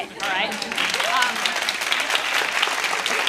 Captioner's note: clapping